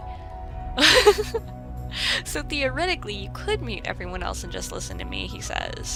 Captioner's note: laughs